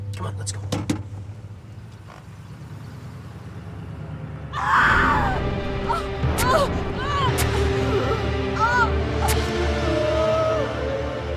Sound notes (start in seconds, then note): 4.5 screams; 6.3 Jeanine grunting; 6.5 knife slashing